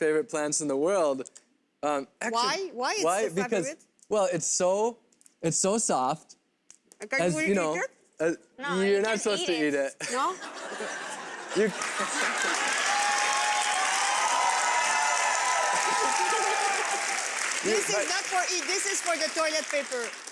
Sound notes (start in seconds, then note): 10.0 laughs; 11.7 crowd laughs and cheers